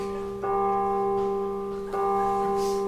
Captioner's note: bong! Bong!; bong! Bong! Bong!; bong! Bong! Bong! Bong!